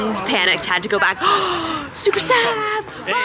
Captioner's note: gasps